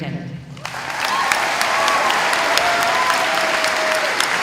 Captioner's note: audience applauding